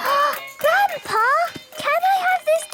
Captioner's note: gasps; upbeat music